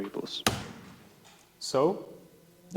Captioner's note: slaps keyboard